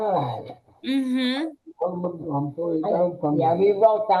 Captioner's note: mumbles excitedly